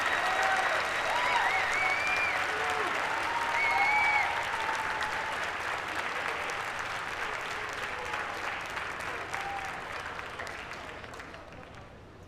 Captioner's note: applause